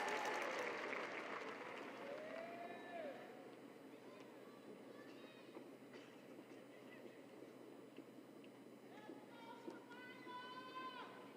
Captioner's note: cheers and applause